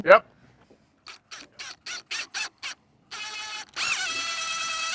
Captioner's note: drill whirring